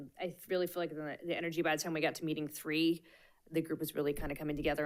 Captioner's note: none